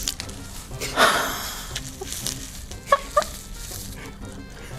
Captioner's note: both chuckle silently